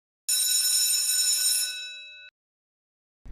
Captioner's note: school bell rings